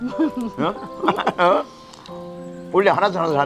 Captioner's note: both laughing